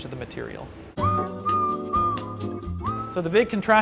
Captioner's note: bersiul